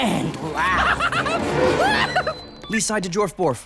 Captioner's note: holger laughs hysterically